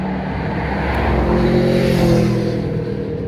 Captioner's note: motorbike noise in background